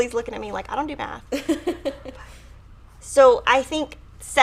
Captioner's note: laughs